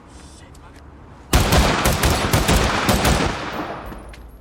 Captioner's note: gun firing